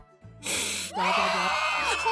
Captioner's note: inhale